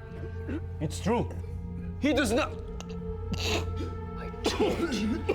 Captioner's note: chokes; chokes